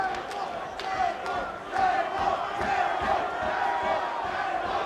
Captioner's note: crowd chants "Table"